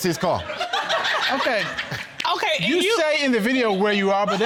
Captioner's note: all laughing